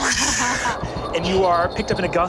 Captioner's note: mimics air whooshing